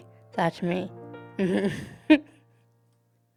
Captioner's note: laughing